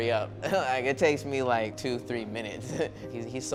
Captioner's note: chuckles; chuckles